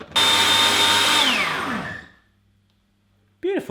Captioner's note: whirring